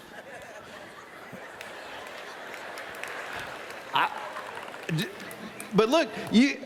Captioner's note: laughter